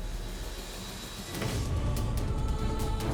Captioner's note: dramatic vocalisation